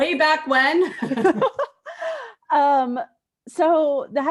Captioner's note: laughter